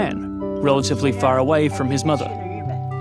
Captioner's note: in mandarin